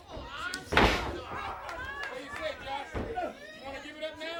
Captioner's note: crowd chatter